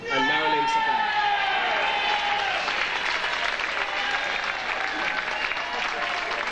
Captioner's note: audience applauds and cheers